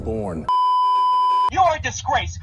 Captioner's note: beeeeeeeeeeeep